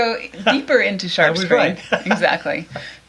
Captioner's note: laughs